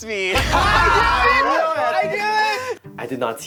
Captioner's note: campers react